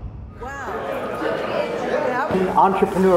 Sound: crowd chattering

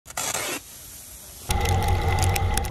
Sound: bag ripping; motor running

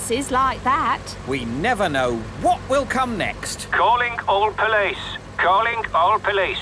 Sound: radio

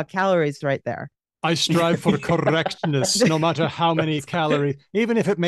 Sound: laughs

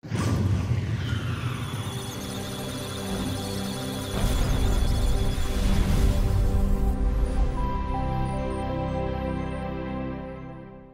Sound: musical Tones; electronic Sounds of Data

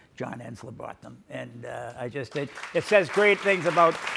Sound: audience applauds

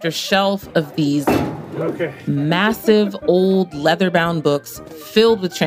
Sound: book slams down

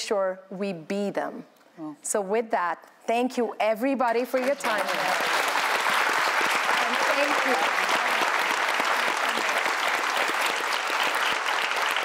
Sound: applause

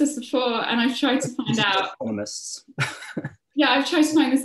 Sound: laughs

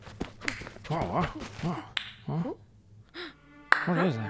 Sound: clapping

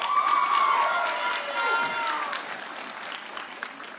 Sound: audience cheering

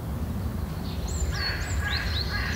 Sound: crows

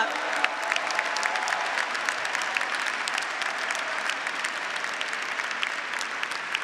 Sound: audience and graduates applauding

